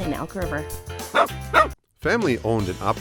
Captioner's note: dog barking